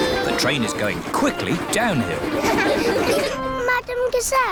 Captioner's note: laughter